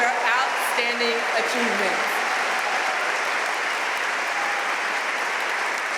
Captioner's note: audience cheering and applauding